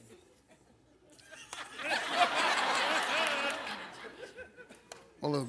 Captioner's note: audience laughs